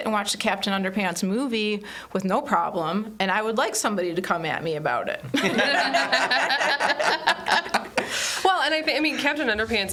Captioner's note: everyone laughs